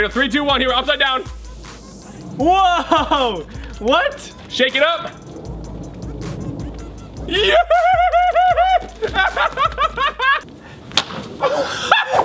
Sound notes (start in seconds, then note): 7.3 laughter; 7.3 screams